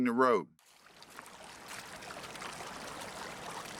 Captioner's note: creek flowing